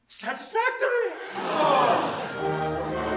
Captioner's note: everyone breathes a sigh of relief